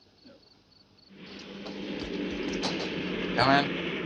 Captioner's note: plane whirring